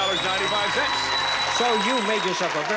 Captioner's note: audience cheering